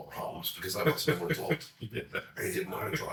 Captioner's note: laughs